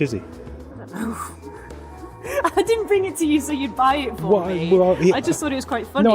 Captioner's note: laughs